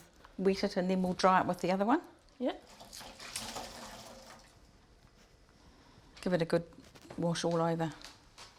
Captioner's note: sound of water being squeezed out of cloth